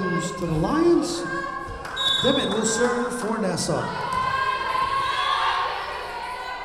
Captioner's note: whistle blowing